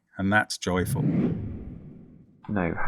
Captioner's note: air whooshing